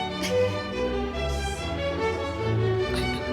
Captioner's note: laughs